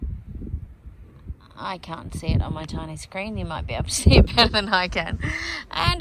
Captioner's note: laughing